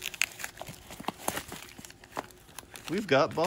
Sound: knife slicing; paper rustling

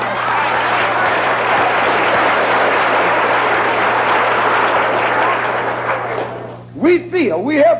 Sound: applause

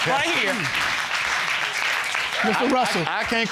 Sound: audience clapping

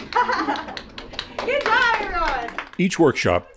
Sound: clapping

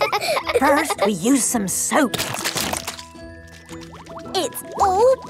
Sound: laughing; squirt! squirt!

